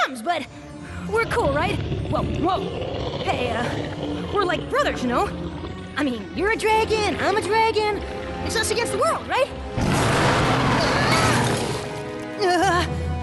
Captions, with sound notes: But we're cool, right? [ Growling ] whoa, whoa! Hey, uh, we're like brothers, you know? I mean, you're a dragon and I'm a dragon. It's us against the world, right? [ Growls ] Aah!